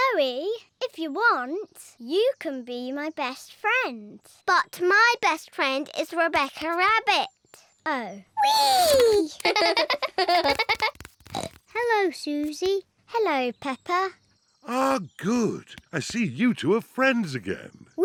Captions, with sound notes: Zoe, if you want, you can be my best friend. -But my best friend is Rebecca Rabbit. -Oh. -Whee! -(BOTH GIGGLE) -(SNORTS) Hello, Suzy. -Hello, Peppa. Ah, good. I see you two are friends again.